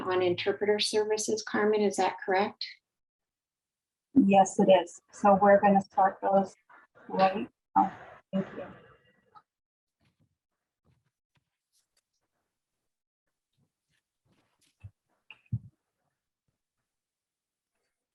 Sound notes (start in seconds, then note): 6.9 audio cuts out